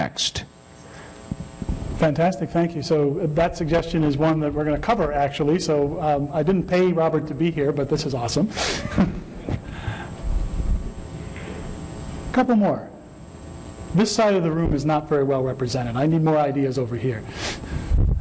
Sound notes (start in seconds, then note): 8.8 laughter